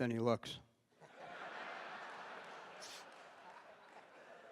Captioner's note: laughter